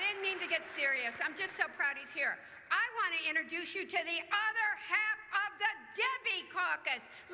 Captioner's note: cheers